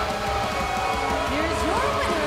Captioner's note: bell ringing